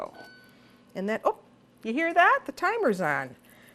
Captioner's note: ding